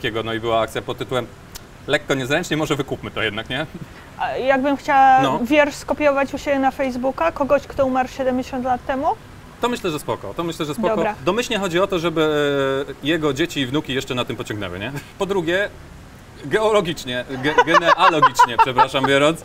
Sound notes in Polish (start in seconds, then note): 17.3 śmiech